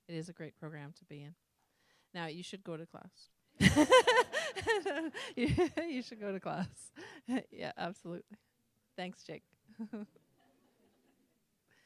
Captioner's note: laughter